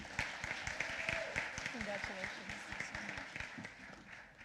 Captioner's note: applause